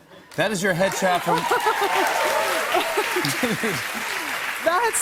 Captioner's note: cheers and applause